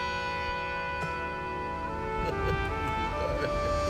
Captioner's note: James sobbing